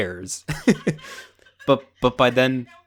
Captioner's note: laughing